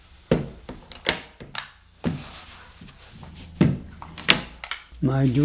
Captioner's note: stapler click-clacks